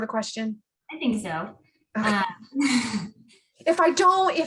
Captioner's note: laughs